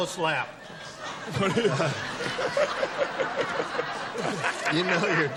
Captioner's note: laughter